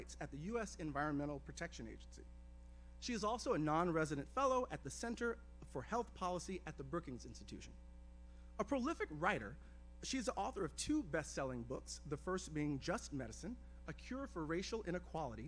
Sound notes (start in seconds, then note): none